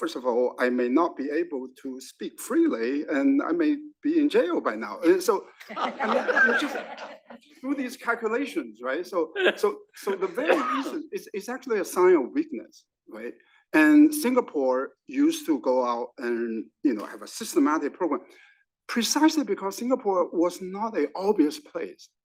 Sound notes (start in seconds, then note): 5.6 laugh